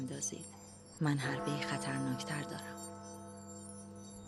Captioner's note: clock bell